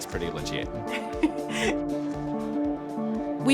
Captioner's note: laughs